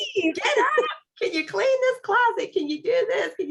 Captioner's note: laughter